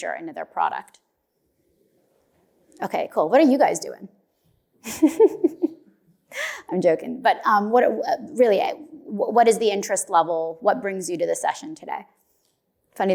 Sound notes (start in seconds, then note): 4.9 laughs